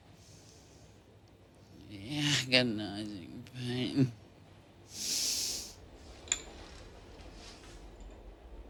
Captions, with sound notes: THE AGONIZING PAIN. [Sniffs]